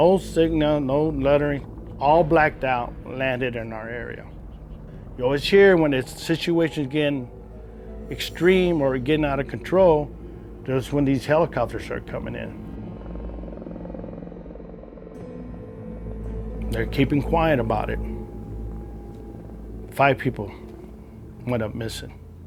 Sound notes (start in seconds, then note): 12.6 haunting music; 12.6 helicopter whirring